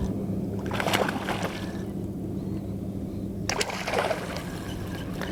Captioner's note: splash